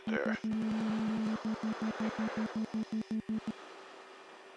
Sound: series of rapid beeps

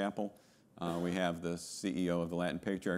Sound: attendee coughing

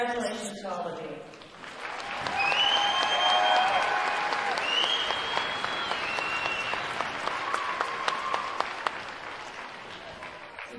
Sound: cheering and applause

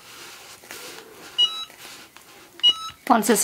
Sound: beeping

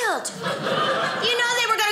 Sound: audience laughing

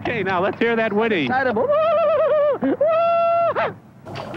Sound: whinnying

